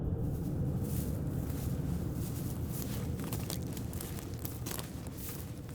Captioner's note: footsteps through grass